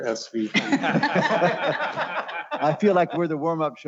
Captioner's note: laughter